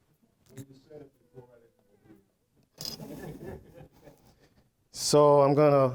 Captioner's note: audience laughing